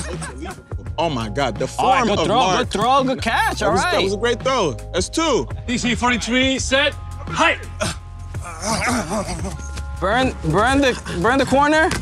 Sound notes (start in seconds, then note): 8.4 grunts